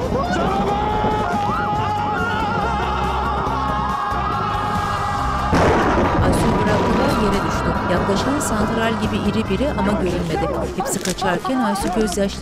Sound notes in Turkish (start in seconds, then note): 0.0 Bağırma sesleri; 5.4 Gök gürültüsü sesi; 6.3 Bağırma sesi